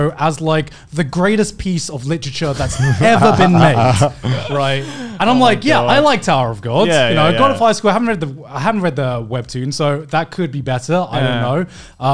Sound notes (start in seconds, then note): 2.4 men laughing